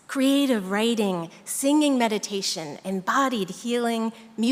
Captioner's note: none